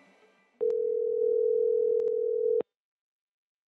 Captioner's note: phone ringing